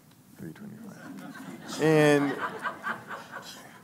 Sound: laughing

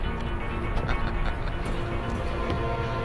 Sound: laughing

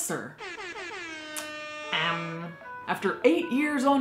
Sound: air horn blares

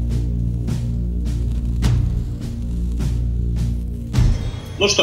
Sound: none

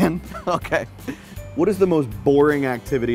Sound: laughter

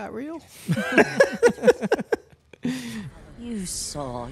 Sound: both laughing

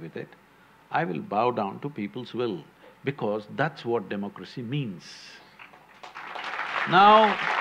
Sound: applause

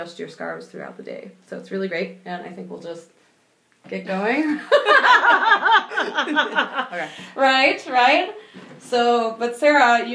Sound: laughing

